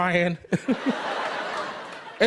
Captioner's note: laughter